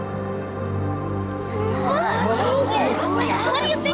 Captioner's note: confused murmurs